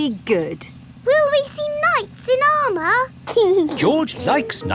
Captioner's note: giggling